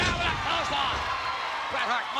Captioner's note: spectators cheering